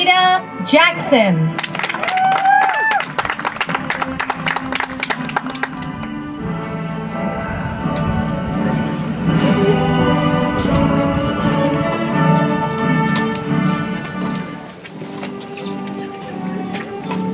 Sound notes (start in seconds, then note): 5.2 audience applauds; 9.3 soft music